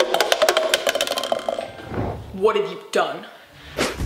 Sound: cup rattling

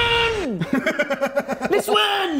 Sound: laughs

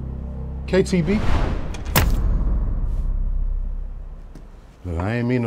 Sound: ominous music intensifies; knife piercing

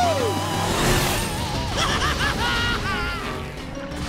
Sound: cheering; laughing

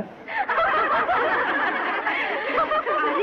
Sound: laughing

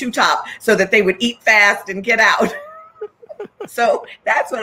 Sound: laughs

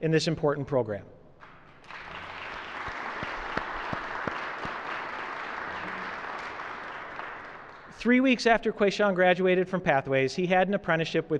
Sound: applause

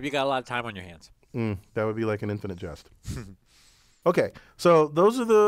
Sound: laugh

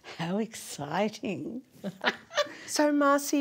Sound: laughing

